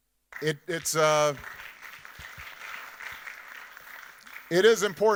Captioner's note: audience applauding